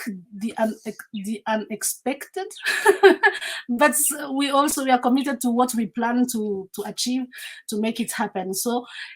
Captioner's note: laughs